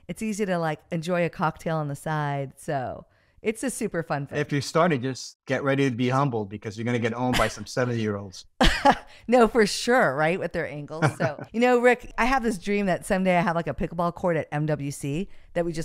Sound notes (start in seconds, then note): 11.0 chuckles; 11.0 laughs